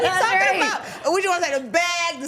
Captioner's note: laughing